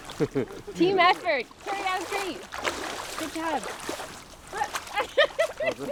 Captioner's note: laughs